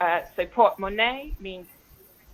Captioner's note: speaks in foreign language